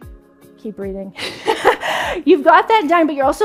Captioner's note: laughs